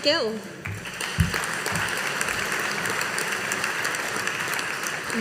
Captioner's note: audience applauding